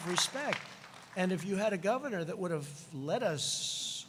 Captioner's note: applause